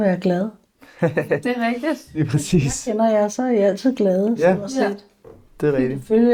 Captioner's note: laughs